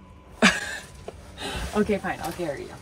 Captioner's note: laughing